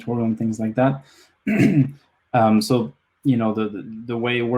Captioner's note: clears throat